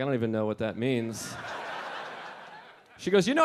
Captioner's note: audience laughing